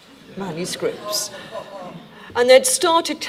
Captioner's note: audience laughing